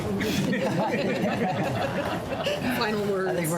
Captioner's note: laughter